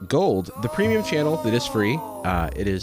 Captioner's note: disembodied voice